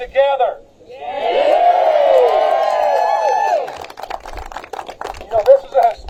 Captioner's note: applause